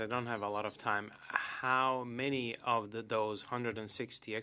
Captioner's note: speaking French